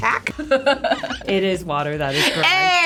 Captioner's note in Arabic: كلاهما يضحك